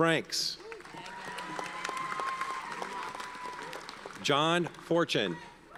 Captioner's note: audience cheers and applauds; audience applauds